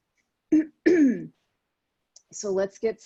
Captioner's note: clears throat